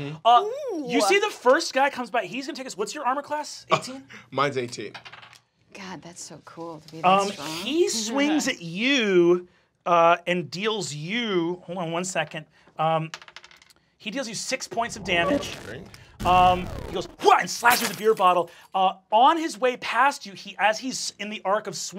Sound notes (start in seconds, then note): 13.1 dice clacks; 16.6 grunts